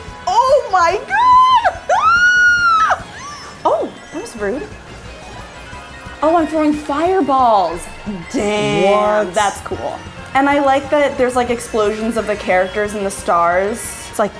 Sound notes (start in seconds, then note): 2.2 squeals; 2.4 Peach yelps